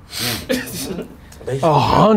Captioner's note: laughing